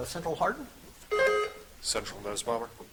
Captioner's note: buzzer chiming